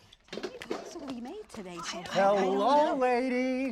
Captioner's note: women chattering